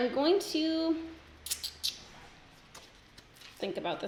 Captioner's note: clicks tongue